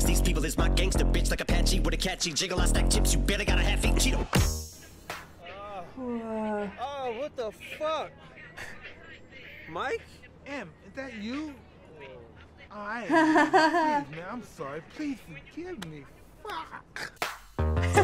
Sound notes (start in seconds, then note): 5.8 groans; 13.0 laughs